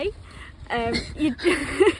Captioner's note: laughter